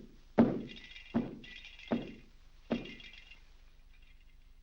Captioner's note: foot stomping; lights rattling